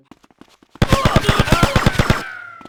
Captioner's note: man screaming